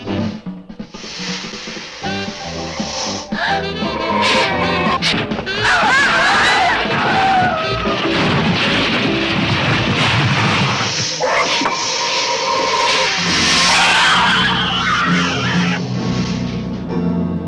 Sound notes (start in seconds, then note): 1.0 leaves rustling; 3.2 both gasp softly; 5.6 teens screaming; 8.0 metal clanking; 10.7 monster screeches; 11.4 dramatic orchestral music